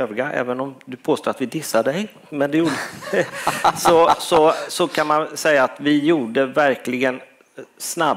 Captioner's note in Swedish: skratt